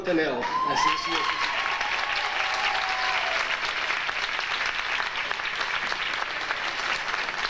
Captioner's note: audience applauding